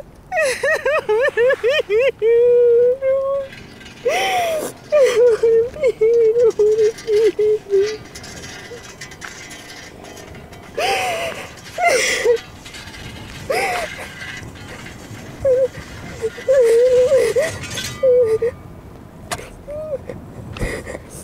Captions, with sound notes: I don’t wanna be here... I don’t wanna be here... I don’t wanna be here... *Sobbing*